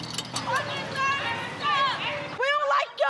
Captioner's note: shouting